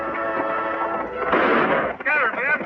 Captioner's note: gun fires